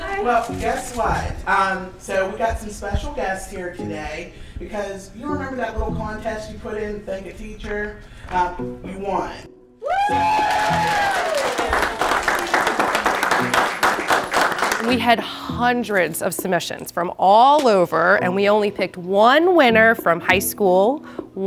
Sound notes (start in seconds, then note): 9.8 cheering and clapping